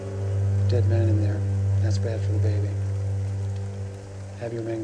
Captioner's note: thunder Rumbling